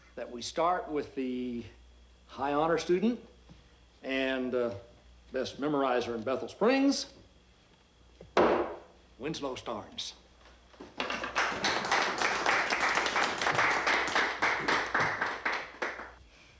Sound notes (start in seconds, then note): 10.9 crowd applauding